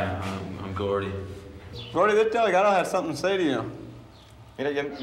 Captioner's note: spanish; speaking spanish